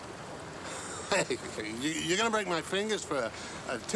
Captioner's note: laughs nervously